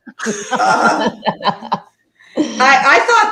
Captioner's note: everyone laughing